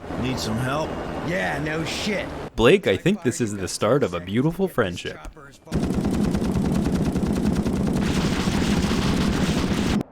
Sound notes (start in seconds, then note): 5.7 gun shooting